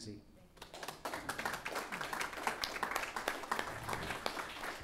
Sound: applauding

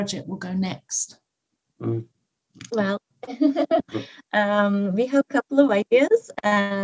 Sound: chuckling

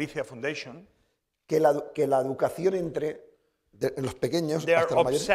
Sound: speaking spanish

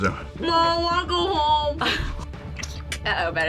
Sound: laughs

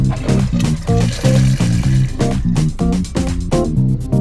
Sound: toilet flushing

